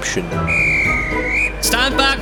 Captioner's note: whistles